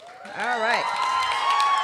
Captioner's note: cheering and applause